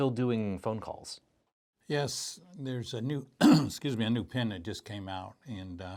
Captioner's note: clears throat